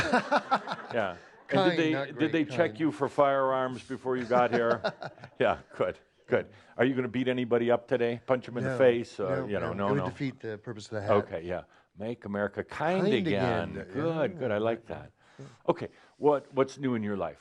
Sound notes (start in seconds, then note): 0.0 laughter; 4.2 laughs